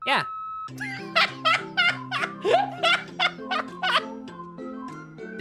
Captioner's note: silly music; laughs at the bird drinking to survive